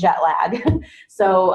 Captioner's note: laughs